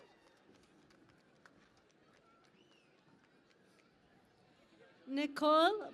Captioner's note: cheering and Applause